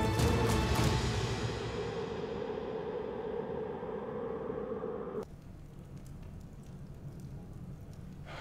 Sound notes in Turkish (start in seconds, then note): 2.5 Rüzgâr sesi